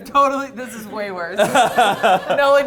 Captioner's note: laughs